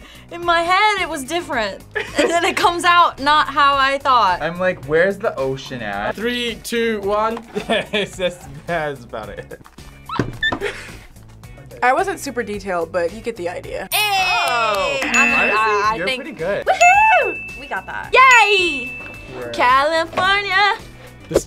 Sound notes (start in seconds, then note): 7.8 laughs; 10.6 both laugh